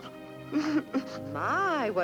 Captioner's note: barely-contained sobs